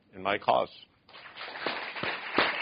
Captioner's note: applause